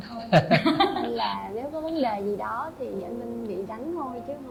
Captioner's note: big laughing